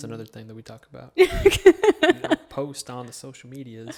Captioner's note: laughs